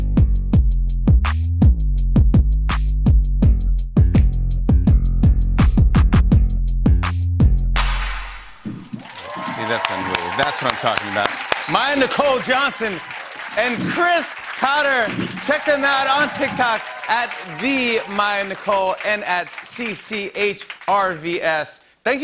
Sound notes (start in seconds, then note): 8.5 cheers and applause